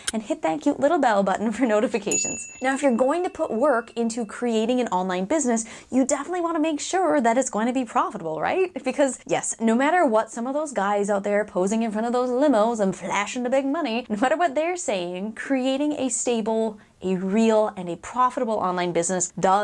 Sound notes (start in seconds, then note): 2.1 bell ringing